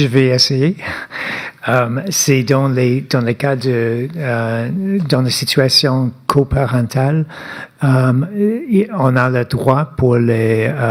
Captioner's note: speaking French